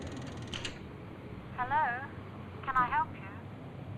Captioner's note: pay phone lever charging; woman on phone